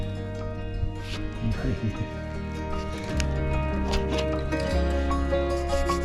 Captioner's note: laughing